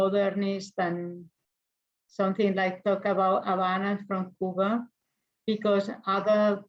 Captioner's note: speaks in foreign language